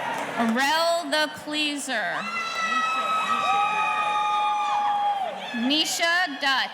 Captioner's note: audience cheering